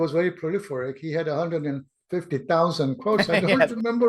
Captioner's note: laughs